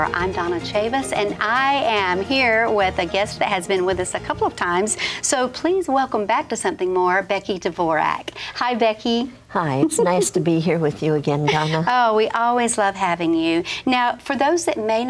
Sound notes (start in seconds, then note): 9.8 giggles